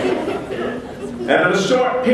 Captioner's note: laughter